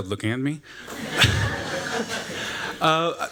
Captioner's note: laughter